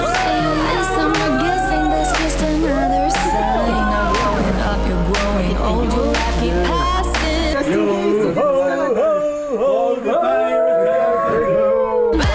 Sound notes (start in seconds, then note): 0.1 screaming